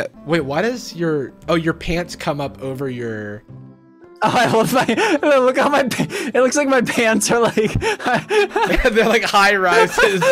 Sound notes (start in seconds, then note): 9.6 laughs